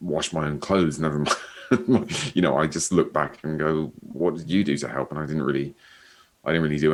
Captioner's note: chuckles